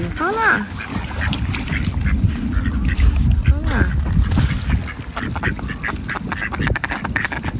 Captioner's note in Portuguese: som de patos